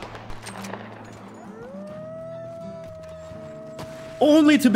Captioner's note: wolves howling